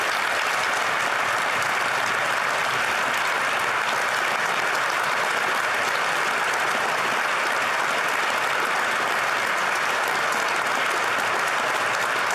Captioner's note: applause